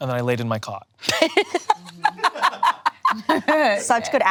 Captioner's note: laughing